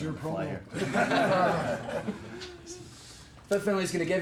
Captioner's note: all laugh